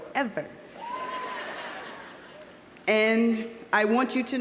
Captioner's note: audience cheering; audience laughing